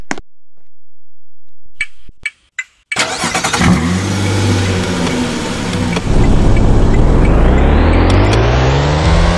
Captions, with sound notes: (starts car) let's head to the mall.